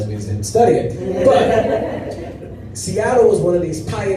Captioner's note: laughter